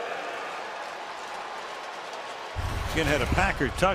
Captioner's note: cheering